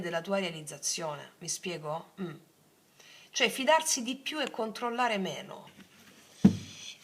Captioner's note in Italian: schiarire la voce